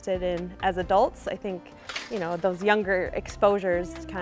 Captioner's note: gate clanking